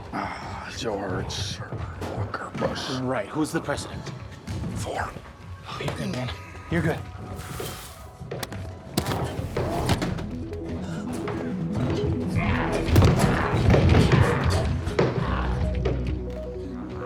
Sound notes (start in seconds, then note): 8.4 bright music; 12.8 door rattling